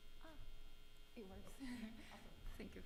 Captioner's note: chuckles